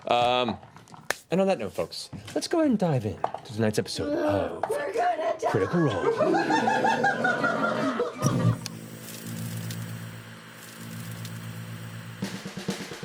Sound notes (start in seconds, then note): 8.2 click, TV static; 12.2 groovy theme